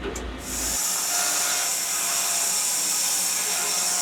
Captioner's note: saw buzzing